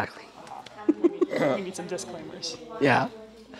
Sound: light laughter

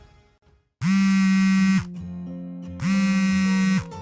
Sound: phone buzzes three times

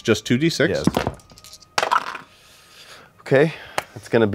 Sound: dice clatter

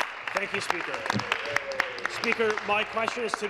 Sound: applause

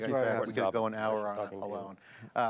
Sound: men chattering

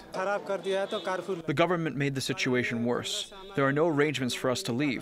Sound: through translator

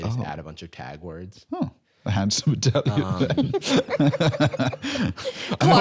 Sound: laughing

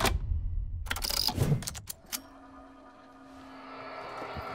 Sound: buttons click

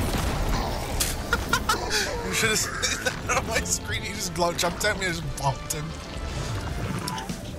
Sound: bursts into laughter

